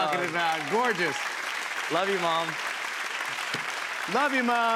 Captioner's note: applause